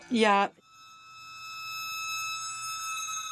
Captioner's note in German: Schriller, monotoner Klang